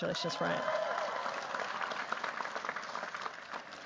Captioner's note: cheers, applause